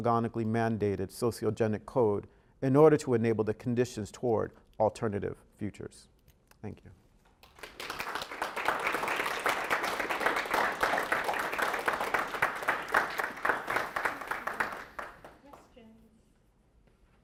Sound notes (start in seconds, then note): 7.4 applause